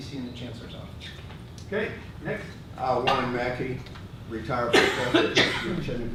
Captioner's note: person coughing